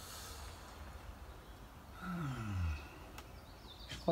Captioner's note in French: soupire